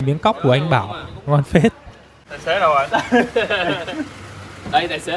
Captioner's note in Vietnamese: tiếng cười